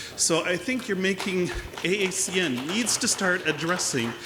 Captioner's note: applause